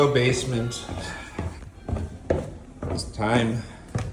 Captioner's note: footsteps descending; sighing